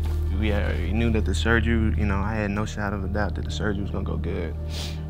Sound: sniffling

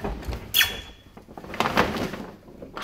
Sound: squeaking

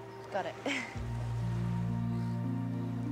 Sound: chuckles

